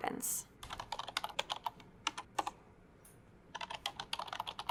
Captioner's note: typing